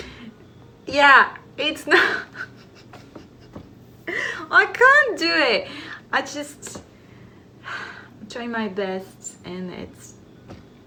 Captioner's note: laughs